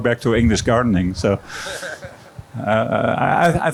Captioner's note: laughter